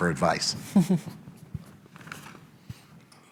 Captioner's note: laughter